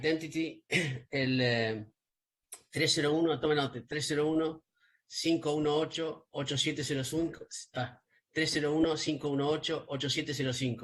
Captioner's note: spanish